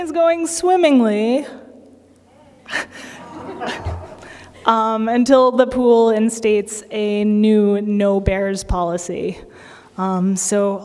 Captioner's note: laughter